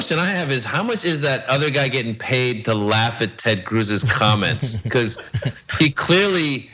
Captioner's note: laugh